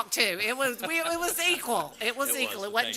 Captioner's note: laughter